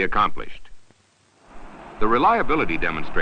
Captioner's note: sound of Engines Firing